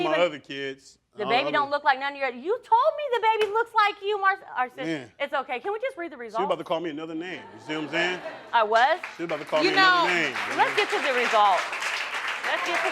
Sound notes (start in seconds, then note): 5.4 stammering; 7.8 crowd laughing and clapping